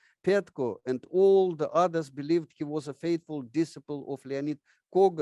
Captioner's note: none